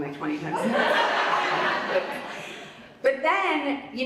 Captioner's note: audience laughs